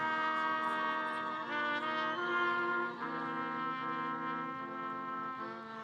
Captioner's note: audience members cheering